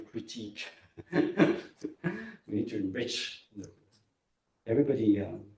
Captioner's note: laughs